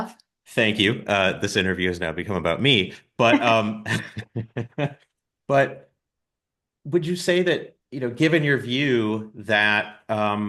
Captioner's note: both laugh